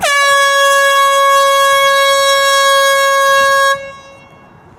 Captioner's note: air horn blowing